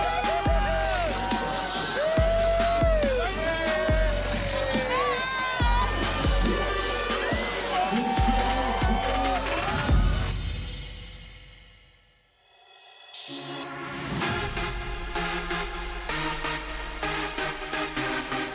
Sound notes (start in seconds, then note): 1.8 cheering; 5.9 upbeat dance music; 13.3 upbeat music